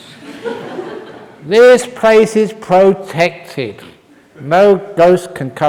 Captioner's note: laughter